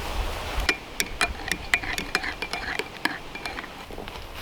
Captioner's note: clinking